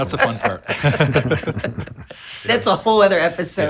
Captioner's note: group laughing